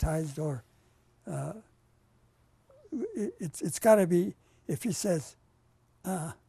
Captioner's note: pauses for 3 seconds